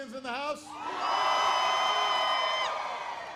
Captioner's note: applause